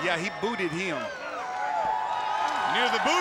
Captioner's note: crowd cheering